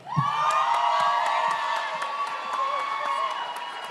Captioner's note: audience cheers